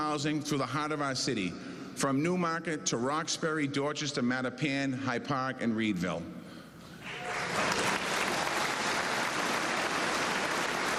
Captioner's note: cheers and applause